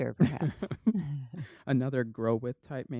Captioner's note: laughter